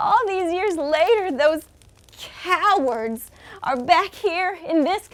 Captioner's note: fire crackles